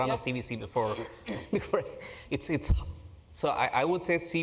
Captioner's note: laugh